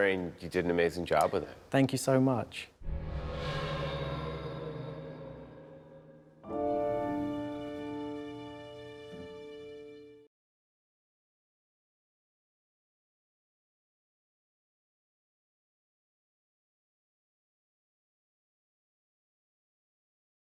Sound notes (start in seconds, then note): 2.8 suspenseful music; 6.5 chime